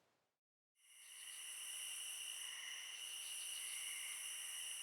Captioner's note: crickets chirping